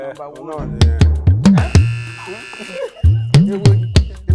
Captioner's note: drum beats; buzzer pressed